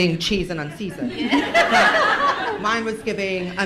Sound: laughter

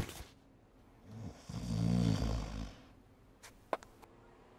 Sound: snoring

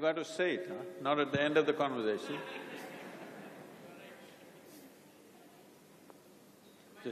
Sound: laughter

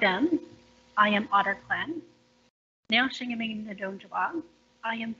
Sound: foreign language

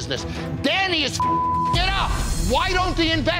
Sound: beeping

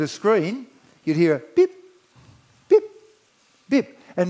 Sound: beeps

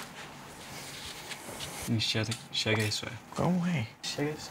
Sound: asking curiously

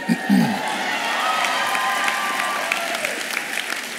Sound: applause and cheering

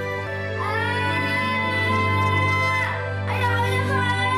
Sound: screaming

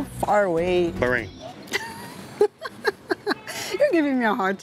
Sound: laughs

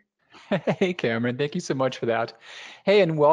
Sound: laughs

